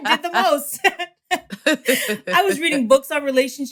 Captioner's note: laughter